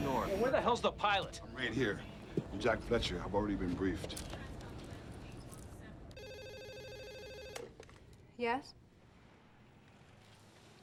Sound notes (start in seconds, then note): 6.2 telephone rings